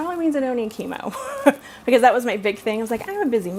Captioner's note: laughs